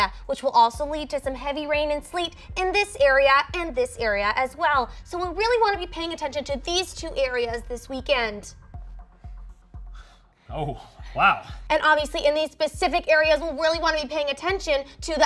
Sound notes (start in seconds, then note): none